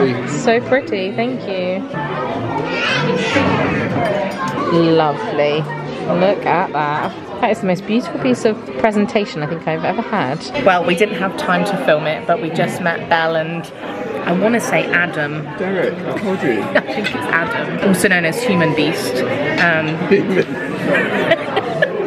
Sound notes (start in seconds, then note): 2.9 child yelling; 17.1 laughs; 20.0 laughs